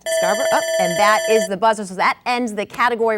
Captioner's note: buzzer ringing